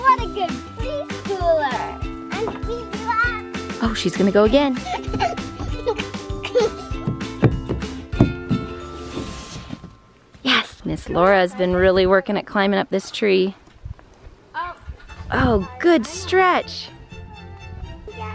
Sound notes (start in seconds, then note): 4.6 laughs